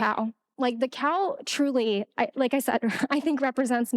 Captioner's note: laughing